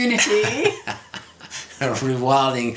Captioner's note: laughs